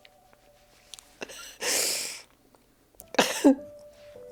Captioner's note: sobbing